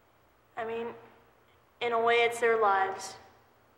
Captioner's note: none